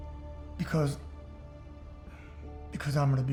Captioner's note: says emotionally